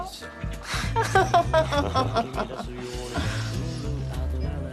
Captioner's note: chuckles bitterly